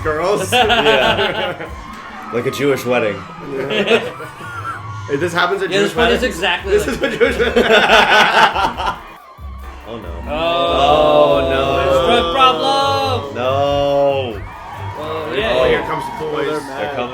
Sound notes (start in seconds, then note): 0.4 laughter; 6.8 laughter; 10.1 everyone voices disapproval